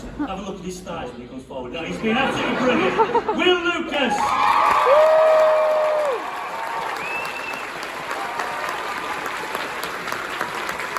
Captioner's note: laughter